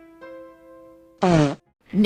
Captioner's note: fart noise